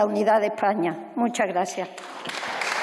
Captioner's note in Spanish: Aplausos